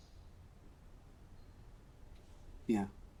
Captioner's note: none